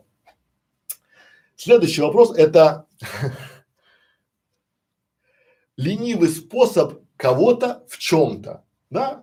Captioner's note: Смеется